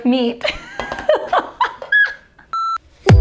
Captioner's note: laughing; bright music